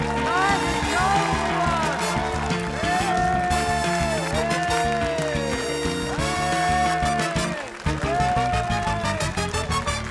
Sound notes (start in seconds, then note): 2.5 cheers